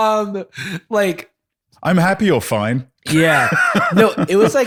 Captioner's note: laughs